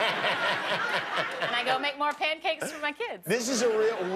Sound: laughter

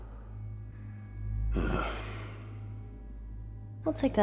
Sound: grunts/sighs

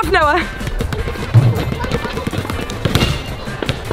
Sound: ball bouncing

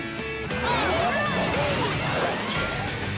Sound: cheering

